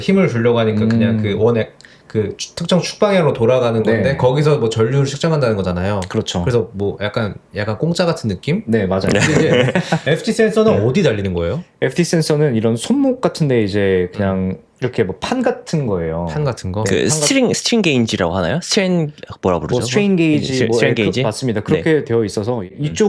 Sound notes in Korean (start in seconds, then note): 9.1 웃음